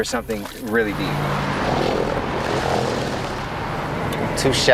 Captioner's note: engine roars